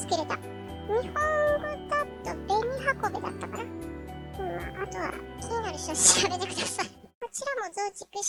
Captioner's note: laughs